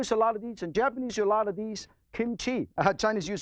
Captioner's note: in foreign language